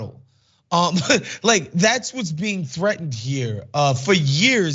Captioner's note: laugh